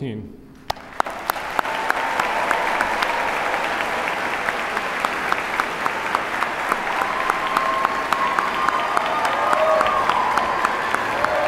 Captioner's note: applause